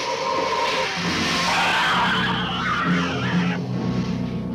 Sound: gila monster screeching; ominous music

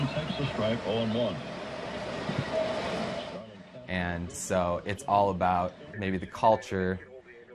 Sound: radio

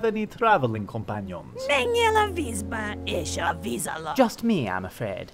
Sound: speaking foreign language

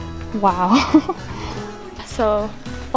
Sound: laughs

